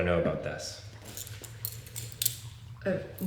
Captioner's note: weapon clicks open